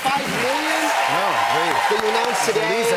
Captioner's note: cheers and applause